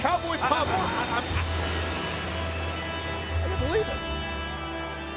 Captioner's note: Tazz stammers